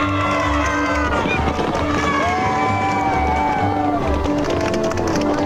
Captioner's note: horse hooves clopping